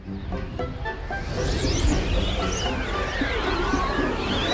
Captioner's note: wind whooshing